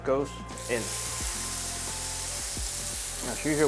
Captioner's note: sizzling sound